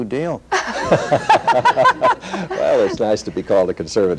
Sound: laughter

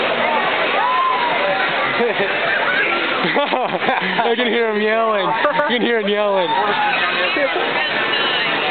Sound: laughter; laugh

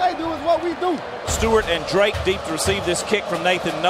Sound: voiceover

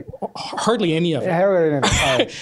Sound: voiceover

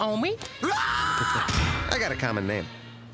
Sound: screams

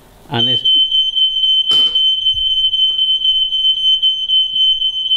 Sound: smoke alarm beeps

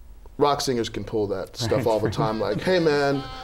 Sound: laughter

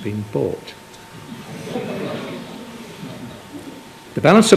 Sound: chuckling

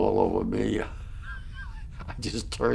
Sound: laughs

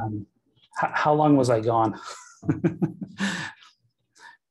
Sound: chuckling

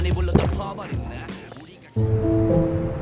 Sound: gulping

